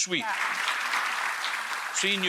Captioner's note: applause